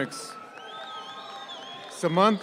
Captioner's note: audience applauds